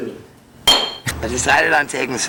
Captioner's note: the bottle didn't break sound